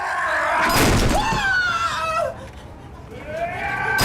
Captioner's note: screaming